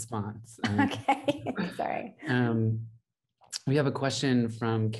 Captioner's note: laughs